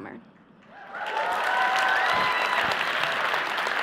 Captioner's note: applause